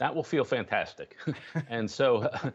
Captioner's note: laughter